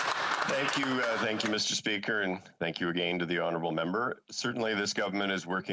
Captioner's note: applause